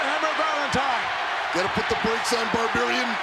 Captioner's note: crowd shout